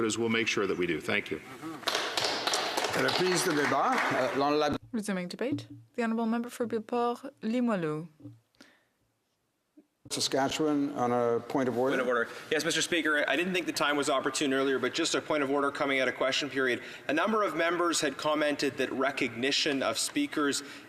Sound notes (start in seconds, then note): 8.2 speaking French